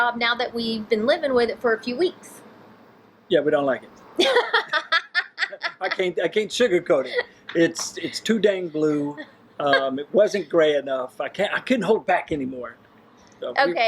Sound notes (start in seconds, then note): 4.2 laughing